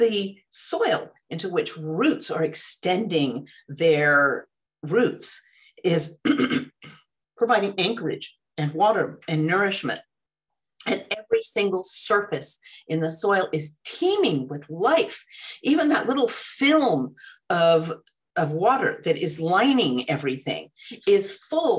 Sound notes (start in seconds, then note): 6.2 clears throat